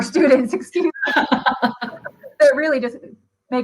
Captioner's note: laughter